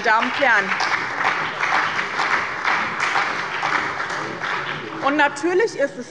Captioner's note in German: Beifall bei dem BÜNDNIS 90/DIE GRÜNEN und der CDU